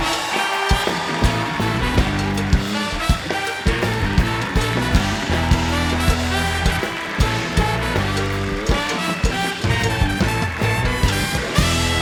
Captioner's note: cheering